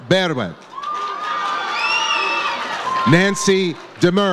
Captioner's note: audience cheers